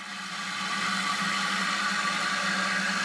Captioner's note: machine noise